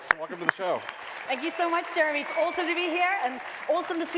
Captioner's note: applause